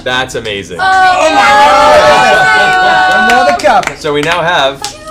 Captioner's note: cheering